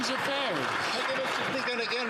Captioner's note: some Applause